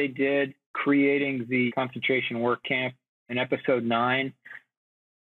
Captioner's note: none